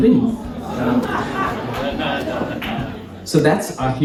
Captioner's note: audience reacts